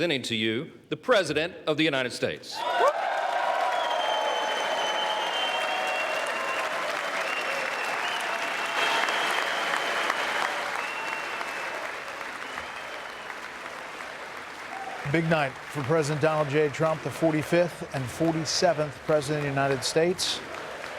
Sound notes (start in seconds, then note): 1.4 applause; 7.9 cheers; 8.0 applause; 8.0 cheers